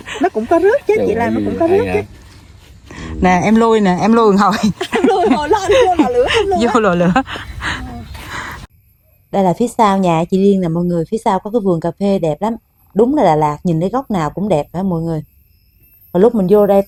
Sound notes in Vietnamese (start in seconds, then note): 4.4 tiếng cười